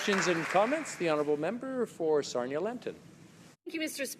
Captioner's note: applause